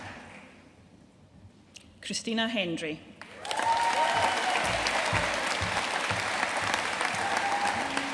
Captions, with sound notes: Christina Hendrie. (AUDIENCE CHEERING AND APPLAUDING)